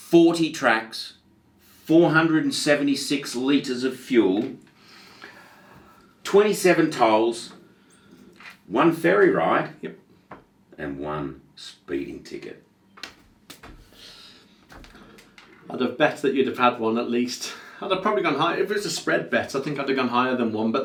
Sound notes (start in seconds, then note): 13.0 hands slapping